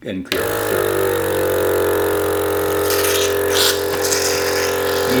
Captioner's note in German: Summen des Saugers